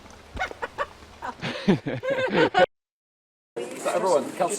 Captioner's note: laughter